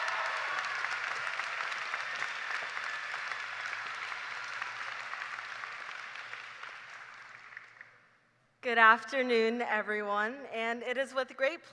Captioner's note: cheers and applause